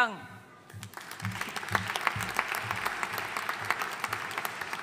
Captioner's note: audience applauding